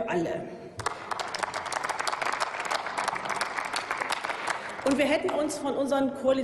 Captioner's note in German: Applaus